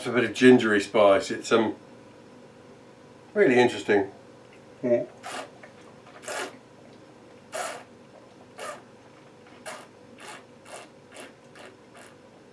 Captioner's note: slurping